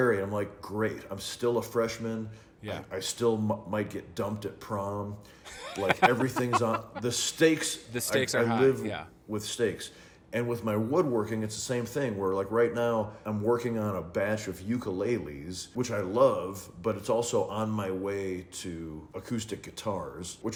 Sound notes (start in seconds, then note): 5.4 laughing